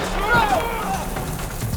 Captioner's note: shouting, grunting; gun shot